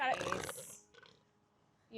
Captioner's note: seal grunting